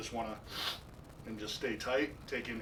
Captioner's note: inhales